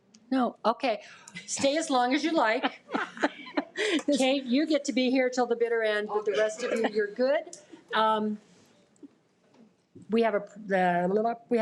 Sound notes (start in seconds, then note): 2.7 audience laughs